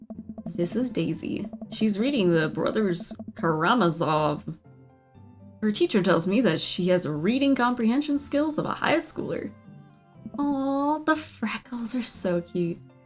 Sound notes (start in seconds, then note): none